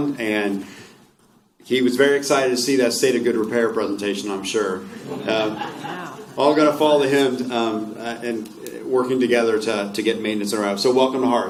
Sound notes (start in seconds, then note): 4.9 laughter